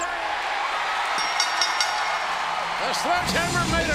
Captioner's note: crowd cheering; bell rings